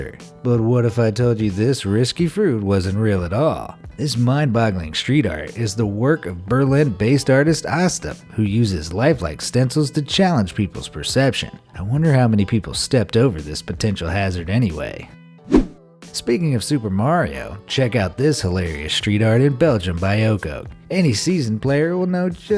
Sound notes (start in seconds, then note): 15.4 air whooshing